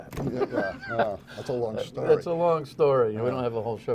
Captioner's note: laughter